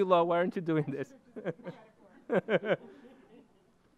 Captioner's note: chuckling